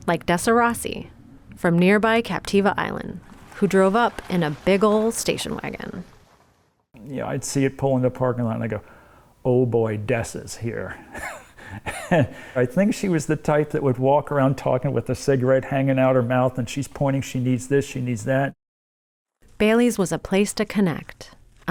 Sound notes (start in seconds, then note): 11.1 laughter